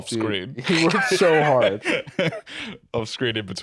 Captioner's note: laughs